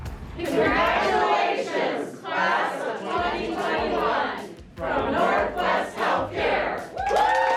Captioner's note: applause